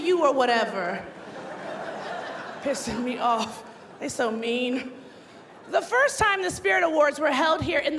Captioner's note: laughter